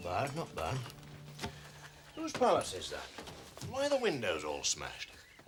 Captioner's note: none